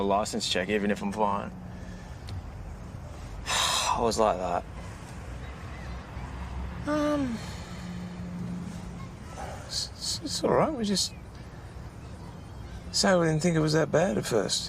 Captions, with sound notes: even if I'm fine? (SIGHS) I was like that. Um... It's...it's...it's alright. We just... ..say we didn't think it was that bad at first.